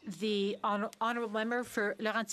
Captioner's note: speaking French